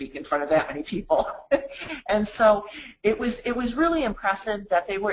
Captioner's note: laughs